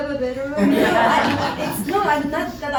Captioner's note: laughter